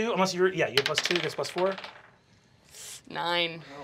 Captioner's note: dice clacking